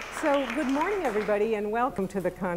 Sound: applause

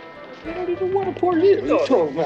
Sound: people chattering; gentle music playing

